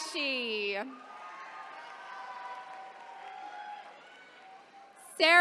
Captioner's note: attendees cheering